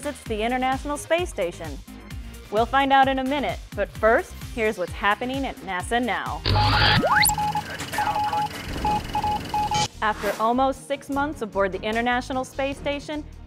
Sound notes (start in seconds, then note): 6.5 sound Effects